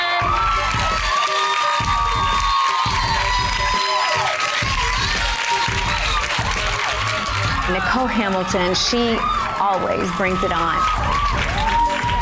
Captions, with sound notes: (crowd cheers) - Nicole Hamilton. She always brings it on.